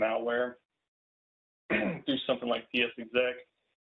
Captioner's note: clears throat